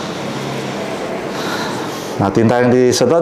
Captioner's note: inhale